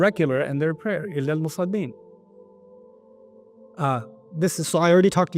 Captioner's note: Arabic